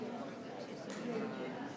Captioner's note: people chattering